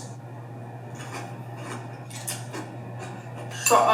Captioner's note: teeth crunching